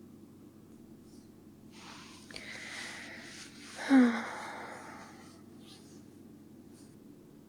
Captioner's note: sighs